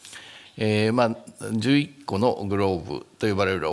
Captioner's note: speaking japanese